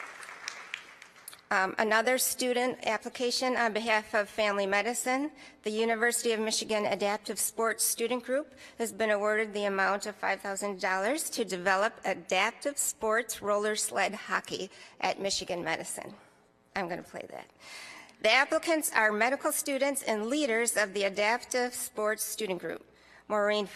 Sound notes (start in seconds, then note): 0.0 applause